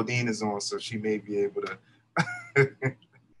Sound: laughs

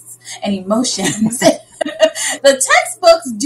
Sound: laughing

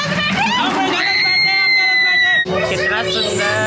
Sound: more screaming

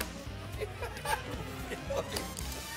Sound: laughing

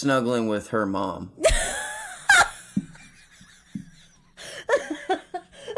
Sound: laughing

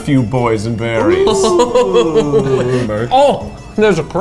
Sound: laughs

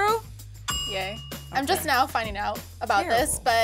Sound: bell dings

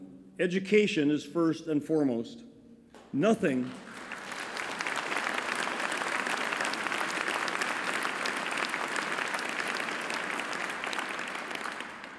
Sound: applause

